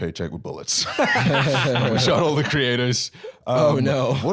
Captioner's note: laughing